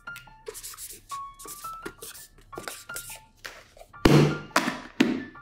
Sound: marker scratches on paper

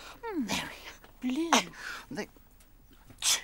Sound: grunts

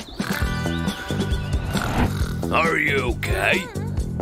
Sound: snoring

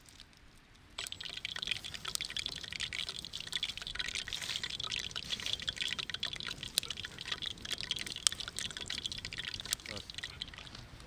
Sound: oil sizzling

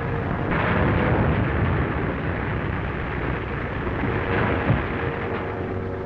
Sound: clattering; sandy scraping

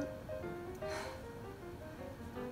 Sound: Izuru sighs

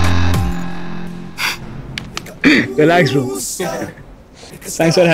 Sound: laughs

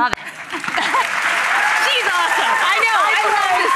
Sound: applause

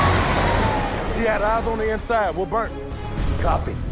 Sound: siren wailing

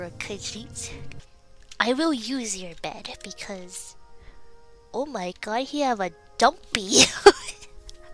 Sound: laughs

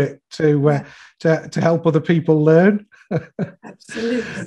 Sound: chuckles

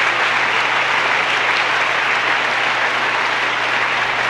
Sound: audience chattering

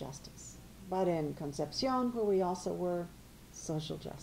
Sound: spanish

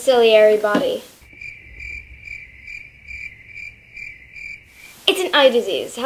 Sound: cricket chirping

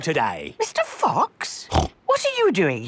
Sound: snorts

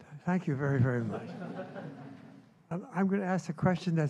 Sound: laughter

